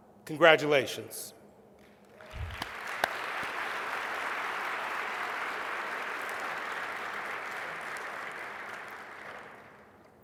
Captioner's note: applause